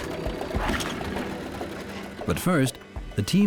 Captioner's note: engine starts